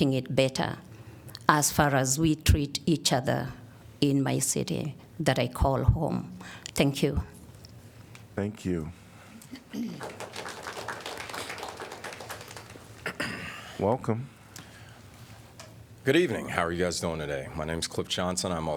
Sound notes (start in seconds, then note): 9.8 applause